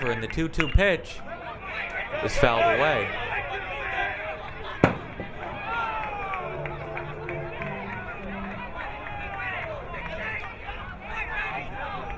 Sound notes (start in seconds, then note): 3.5 crowd muttering